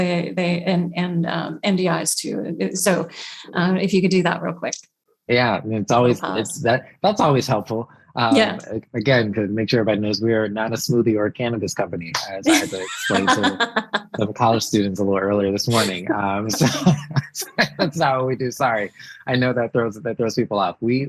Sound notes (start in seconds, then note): 18.2 laughs